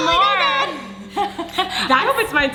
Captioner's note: laughing